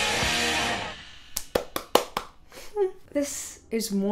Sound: applauding

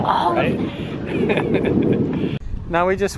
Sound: chuckling

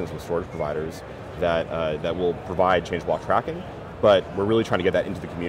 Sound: none

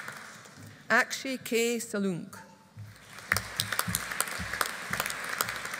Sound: audience applauding

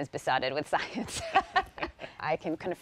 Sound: laughter

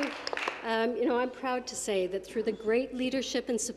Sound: some Applause

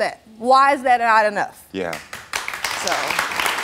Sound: audience applauds

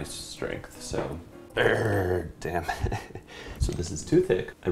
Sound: growls; laughs

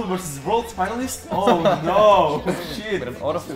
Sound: laughing; laughs

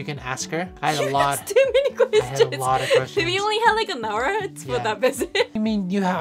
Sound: laughter

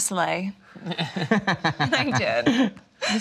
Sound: laughter

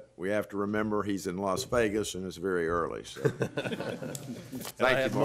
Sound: laughter

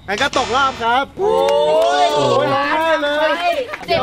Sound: cheering

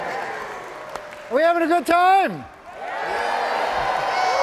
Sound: all cheering

